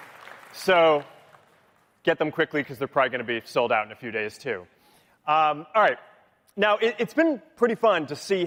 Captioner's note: applause